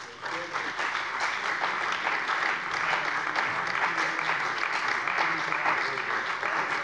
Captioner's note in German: Beifall bei der CDU und dem BÜNDNIS 90/DIE GRÜNEN